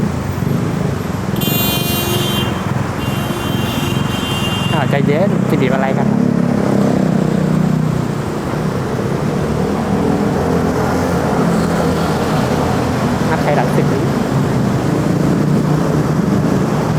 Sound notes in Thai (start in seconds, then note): 1.3 เสียงบีบแตร